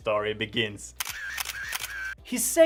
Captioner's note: camera shuttering